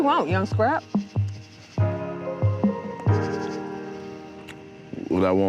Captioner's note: crickets chirping; warm chill music